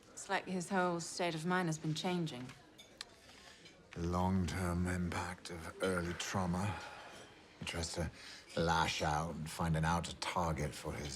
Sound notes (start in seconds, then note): none